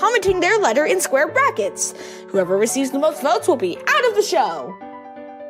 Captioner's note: none